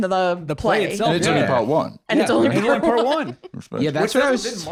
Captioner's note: laughing